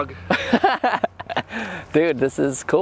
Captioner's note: laughter